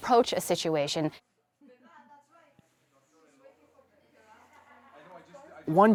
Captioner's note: indistinct chatter